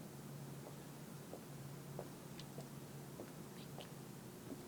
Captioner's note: shoes clattering